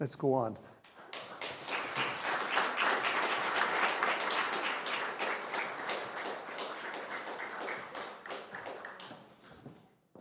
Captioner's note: applause